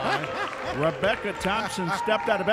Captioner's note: laughing